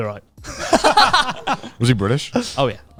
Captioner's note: laughs loudly